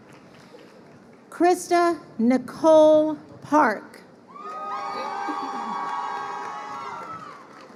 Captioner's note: crowd cheering